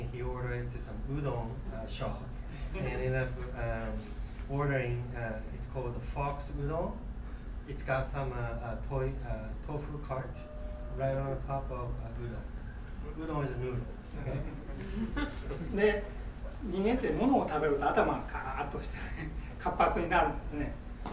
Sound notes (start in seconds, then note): 14.2 laughing; 15.9 speaking in foreign language